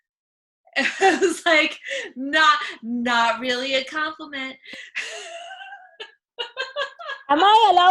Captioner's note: laughs; laughs